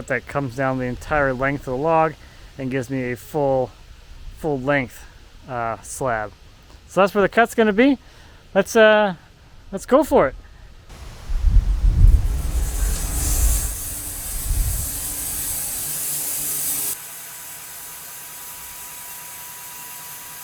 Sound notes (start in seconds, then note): 11.3 machine whirring